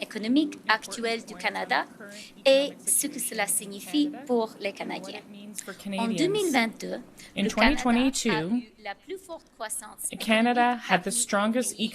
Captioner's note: speaking French